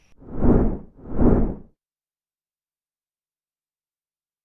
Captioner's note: air whooshing